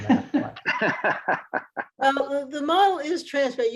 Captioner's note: laughs